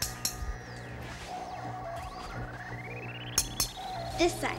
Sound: clinking

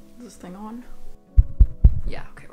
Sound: finger tapping microphone

